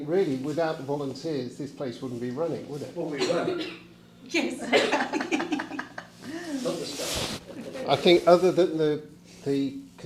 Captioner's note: laughter